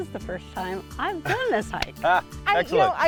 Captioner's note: laughs